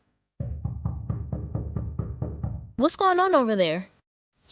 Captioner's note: knock at Door